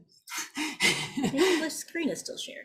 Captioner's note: chuckles